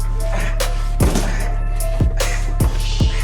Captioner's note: locked door opens